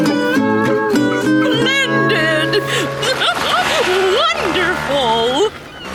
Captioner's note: laughing